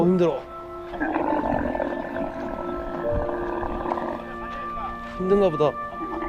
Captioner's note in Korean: 낙타 울음소리